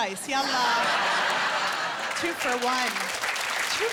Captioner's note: laughter and applause